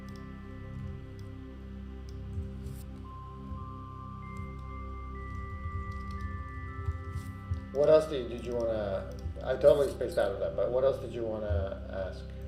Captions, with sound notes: (gentle calming music) (keyboard faintly clacking) What else did you wanna, I totally spaced out on that, but what else did you wanna ask?